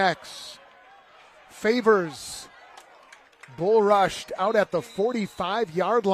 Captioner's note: applause